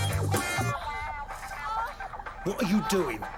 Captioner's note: woman moaning on TV